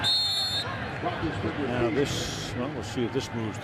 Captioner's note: whistle blowing